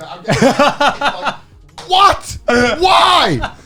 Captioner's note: laughing